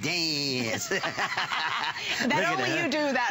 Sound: laughter

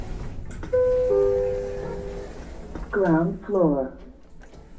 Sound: chime

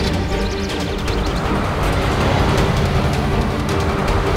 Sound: engine starting

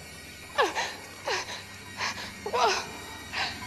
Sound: she sobs

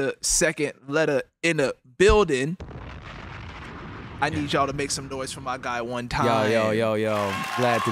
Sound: applause

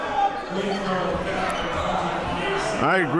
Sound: crowd yelling

